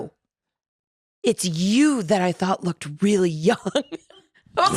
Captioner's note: laughs